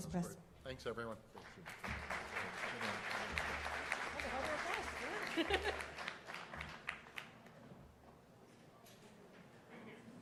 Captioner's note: applause